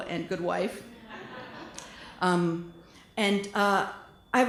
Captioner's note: laughter